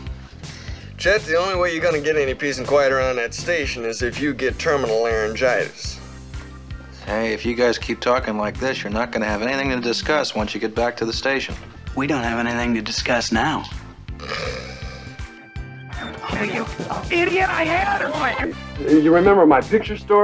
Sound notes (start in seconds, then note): 14.2 snore